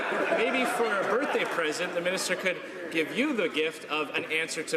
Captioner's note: laughter